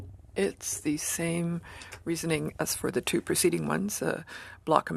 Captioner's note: speaking French